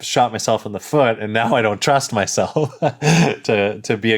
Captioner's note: laughs